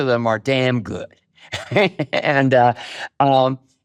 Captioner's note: chuckles